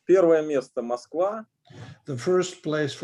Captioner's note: speaking Russian language